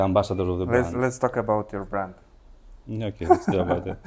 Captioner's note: laughs